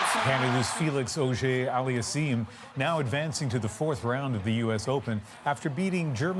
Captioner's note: cheers and Applause